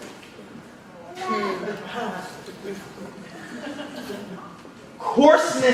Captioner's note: audience laughing